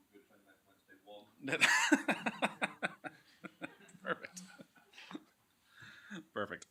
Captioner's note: laughs